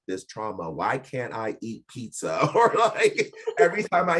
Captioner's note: laughing